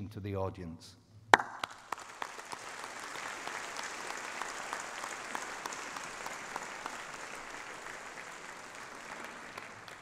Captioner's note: applause